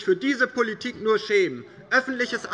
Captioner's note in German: Zuruf